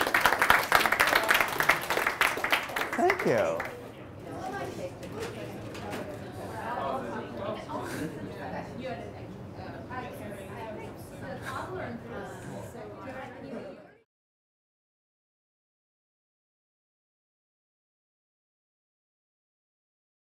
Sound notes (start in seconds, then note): 0.0 class applauds; 4.6 classroom chattering